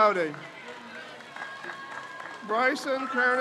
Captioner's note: crowd cheers